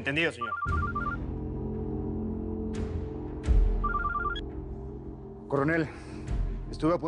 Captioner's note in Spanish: Suena el celular